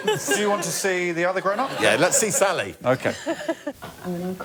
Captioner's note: laughter